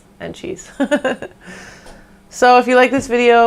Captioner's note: laughs